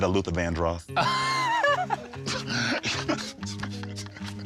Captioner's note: laughter